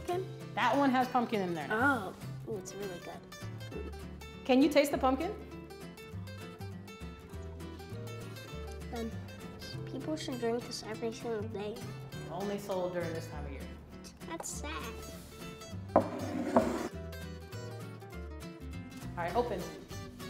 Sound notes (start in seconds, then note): 15.9 mug sliding on table